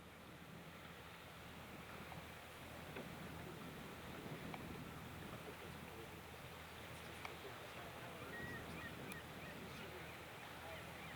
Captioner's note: light ocean sounds